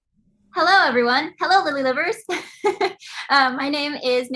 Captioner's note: chuckles